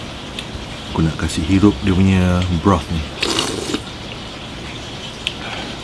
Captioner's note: slurps